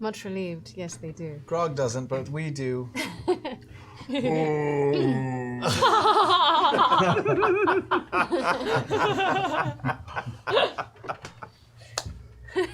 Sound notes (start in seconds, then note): 4.1 moans; 5.6 laughter